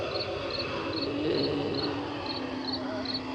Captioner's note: groaning